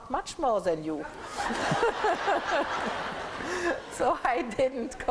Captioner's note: laughter